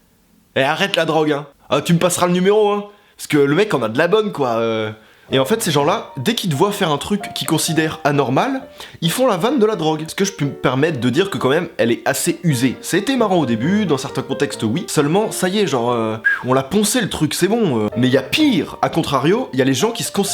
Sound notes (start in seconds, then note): 16.2 whistle